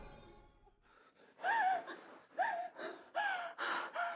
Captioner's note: woman gasping and sobbing